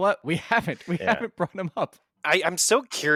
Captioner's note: laughs